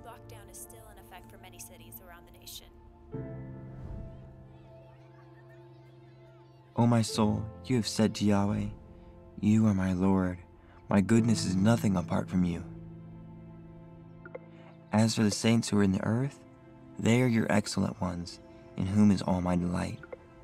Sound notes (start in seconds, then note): 3.6 gentle piano music; 4.2 children laughing; 14.1 phone beeps